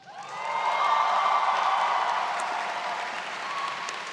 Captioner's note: crowd cheers